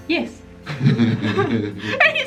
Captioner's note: laughing